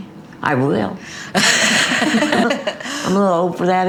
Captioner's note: laughs